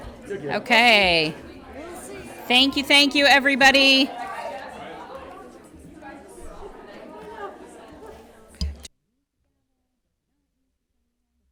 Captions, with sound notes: - Okay. - We'll see. - Thank you. Thank you, everybody. (people chattering)